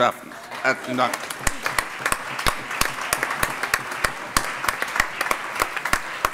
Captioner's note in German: Allgemeiner Beifall